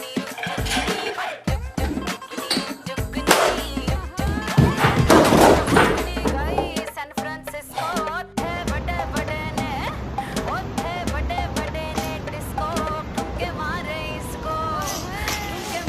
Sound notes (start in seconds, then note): 2.4 weights rattling; 8.8 upbeat music